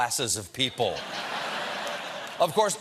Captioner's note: laughter